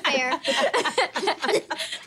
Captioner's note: laughing